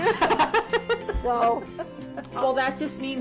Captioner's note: laughing